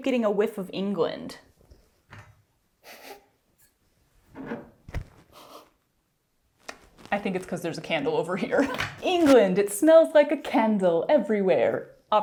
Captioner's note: sniffing